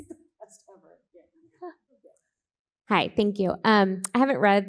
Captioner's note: faintly speaks